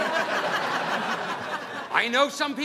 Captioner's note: audience laughing